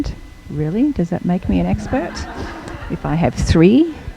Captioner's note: audience laughing